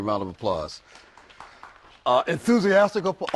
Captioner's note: applause